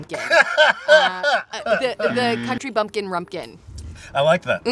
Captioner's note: Malcolm laughs; buzzer buzzes